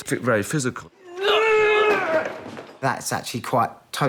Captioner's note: both grunting